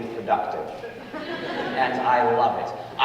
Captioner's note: audience laughing